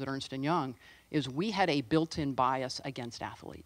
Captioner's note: none